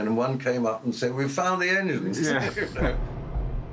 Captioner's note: laughs